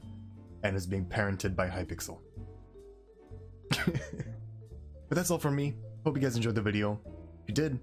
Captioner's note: laughs